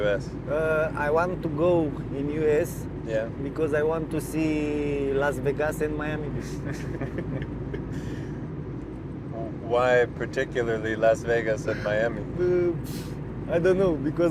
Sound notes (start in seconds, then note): 6.6 chuckles